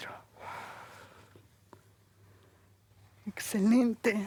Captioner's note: exhala